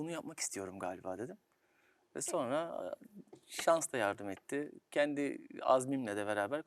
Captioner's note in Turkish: homurdanır